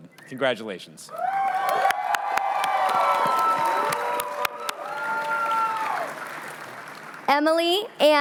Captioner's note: cheering